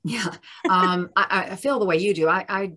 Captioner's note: chuckles